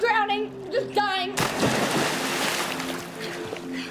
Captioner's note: loud splash